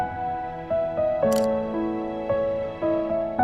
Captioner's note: camera click